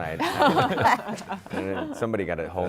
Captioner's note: laughter